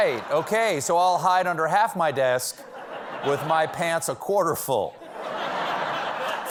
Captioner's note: laughter